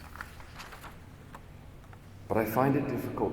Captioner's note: paper rustling